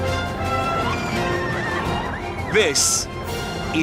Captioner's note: riders screaming